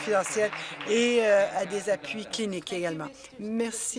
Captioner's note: applause